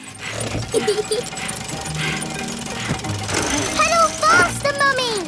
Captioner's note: mummy pig panting; peppa laughing